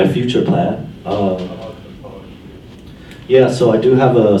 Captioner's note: voiceover